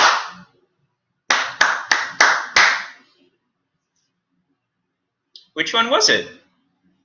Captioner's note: clap, clap, clap, clap, clap